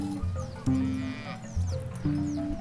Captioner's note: cows mooing